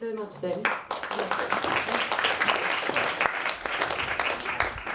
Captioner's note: applause